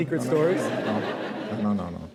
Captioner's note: laughter